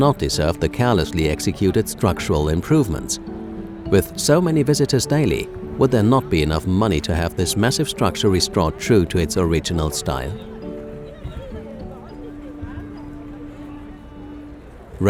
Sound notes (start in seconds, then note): 10.3 italian chatter